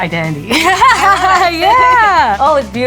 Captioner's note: both laughing